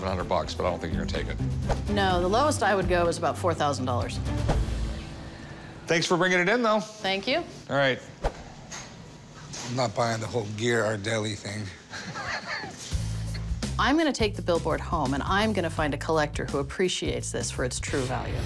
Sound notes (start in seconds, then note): 11.8 Rick chuckles